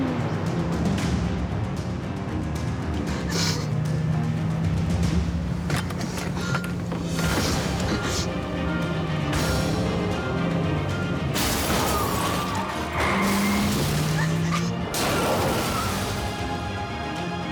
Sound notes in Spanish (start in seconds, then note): 8.4 sollozos; 14.9 estruendo; 17.1 chirrido de gomas